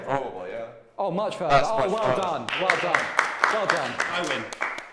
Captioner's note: applause